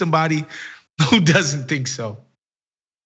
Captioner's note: laugh